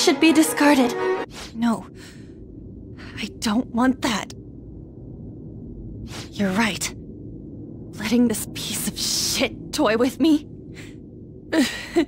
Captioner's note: sob